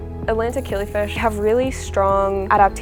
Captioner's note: water swishing